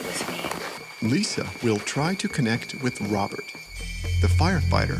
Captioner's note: voiceover